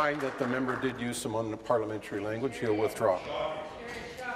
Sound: applause

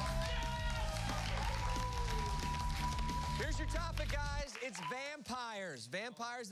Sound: cheers and applause

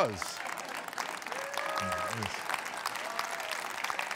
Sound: audience applauds

